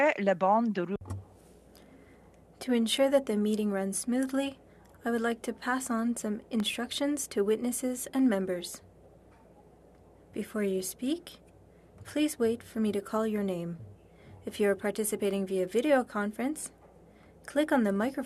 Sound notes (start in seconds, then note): 4.3 speaking French